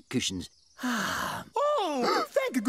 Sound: sighs

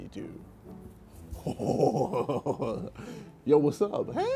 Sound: laughs

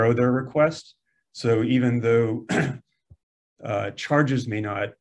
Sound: clears throat

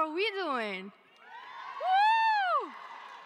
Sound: cheering

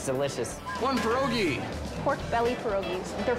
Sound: whistle blowing

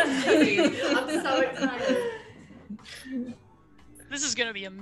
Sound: laugh

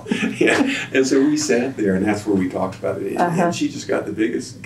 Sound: laughs

